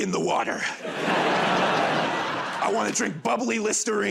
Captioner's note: laughter